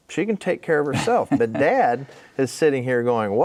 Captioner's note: laughing